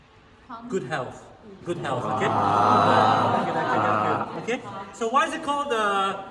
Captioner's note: everyone exclaims